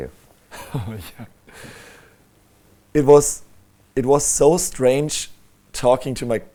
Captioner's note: laughs